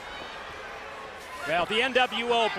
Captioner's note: crowd chatter